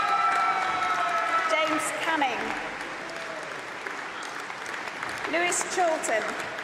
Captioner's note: applause